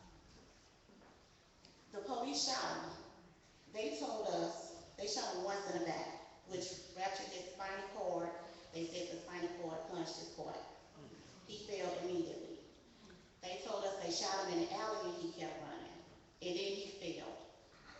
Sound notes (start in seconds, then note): none